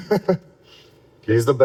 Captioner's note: laughs